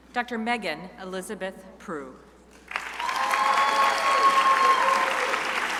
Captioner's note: crowd applauding